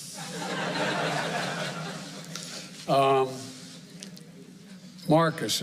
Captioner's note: laughter